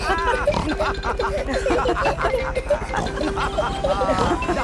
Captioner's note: all laughing and snorting